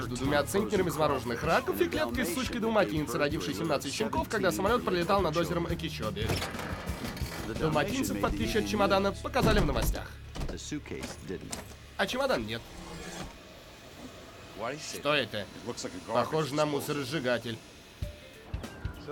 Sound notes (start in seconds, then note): 12.4 air hisses; 14.5 Spanish accent